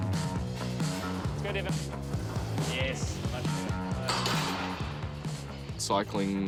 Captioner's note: weights clatter